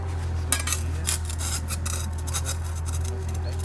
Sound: quiet conversation

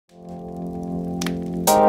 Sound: flames crackling; mellow music

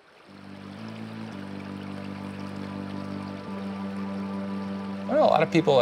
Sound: water gurgling; peaceful music

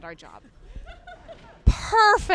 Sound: laughs

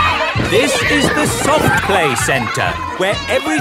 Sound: loudly over shouting

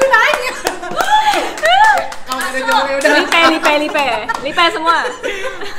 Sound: indistinct chatter

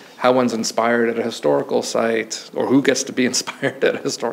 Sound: chuckles

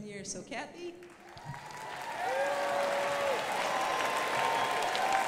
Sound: crowd applauding

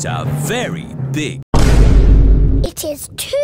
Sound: Vine boom

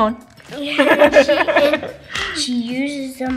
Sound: laughs

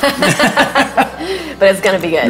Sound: laughing

